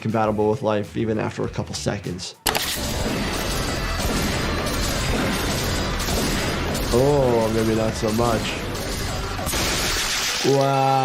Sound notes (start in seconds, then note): 2.4 gun fires, intense music; 8.4 intense music